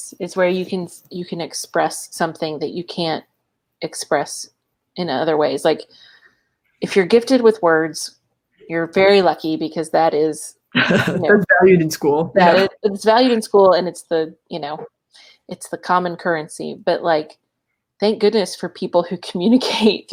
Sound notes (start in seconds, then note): 10.7 laughs